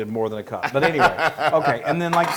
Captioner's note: laugh